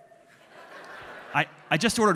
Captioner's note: audience laughing